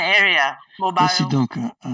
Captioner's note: speaking in foreign language